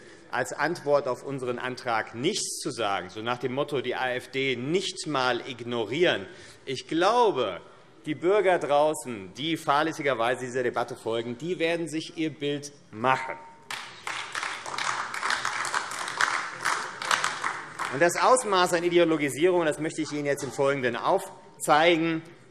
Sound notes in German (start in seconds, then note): 13.6 Beifall AfD